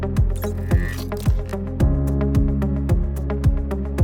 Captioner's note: dynamic music; gears whirring